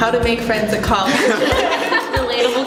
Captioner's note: laughing